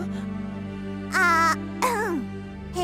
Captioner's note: clears throat